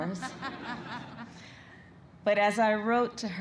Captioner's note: laughter